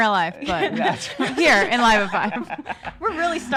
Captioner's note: laughing